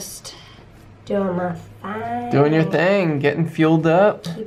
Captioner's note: said with a joking tone